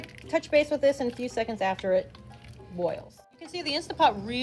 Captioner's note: beans boiling